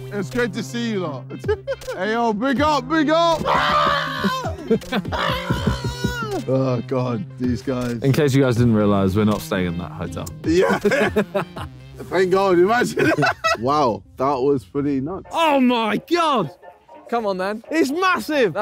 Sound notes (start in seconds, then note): 3.3 screaming; 10.5 laughing; 13.2 laughing